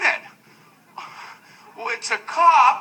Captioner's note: what the heck sighs